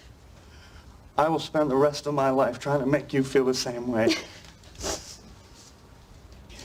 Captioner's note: laughter